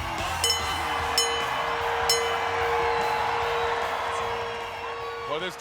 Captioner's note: crowd cheering; bell ringing